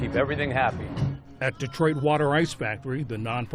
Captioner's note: voice-over